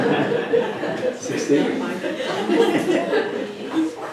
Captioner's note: laughter